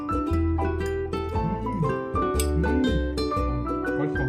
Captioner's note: exclamation